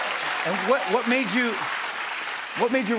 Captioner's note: applause